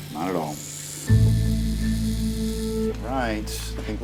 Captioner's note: buzzing